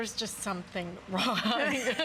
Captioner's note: laughter